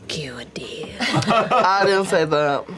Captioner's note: laughter